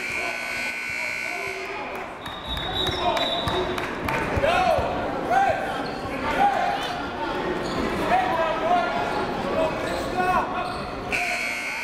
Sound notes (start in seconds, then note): 0.0 buzzer goes off; 2.2 whistle blows; 5.0 crowd talking; 5.2 coaches yelling